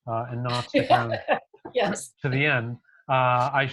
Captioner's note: laughing